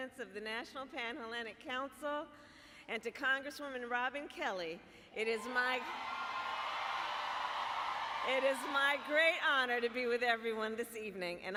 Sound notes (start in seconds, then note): 5.6 applause